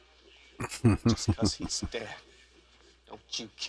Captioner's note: chuckling